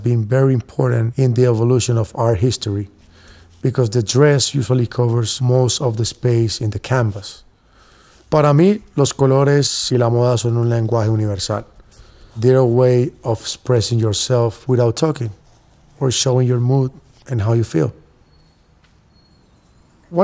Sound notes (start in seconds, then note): 8.2 speaking spanish